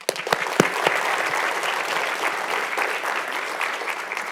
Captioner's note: audience clapping